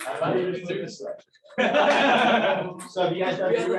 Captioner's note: laughter